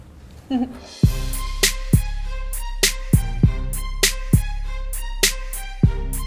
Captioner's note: giggles; upbeat music